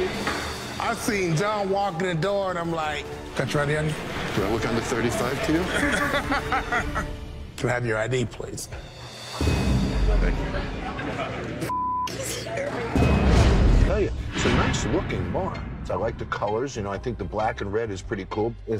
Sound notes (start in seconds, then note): 5.6 laughing; 8.7 tense music; 11.7 beep